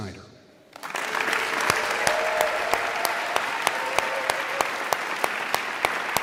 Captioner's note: audience cheering and applauding